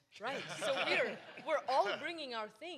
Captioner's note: audience laughs